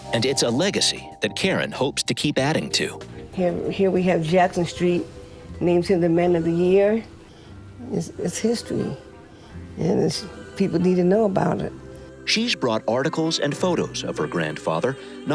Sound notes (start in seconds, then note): none